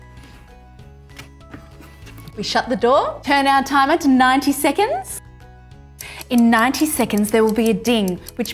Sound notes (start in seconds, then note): 6.0 timer ticking